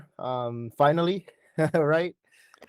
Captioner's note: laughter